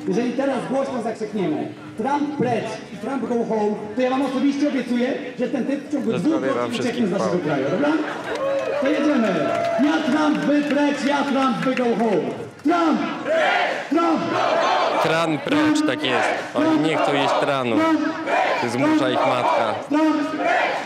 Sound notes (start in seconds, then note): 12.9 crowd chanting lame chant